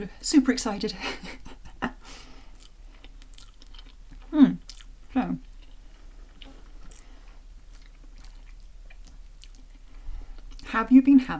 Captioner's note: chuckle